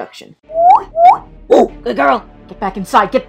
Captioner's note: whistles; barks